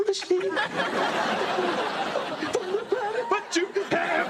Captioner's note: audience laughing